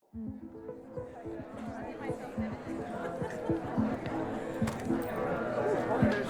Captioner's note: bright music; indistinct chatting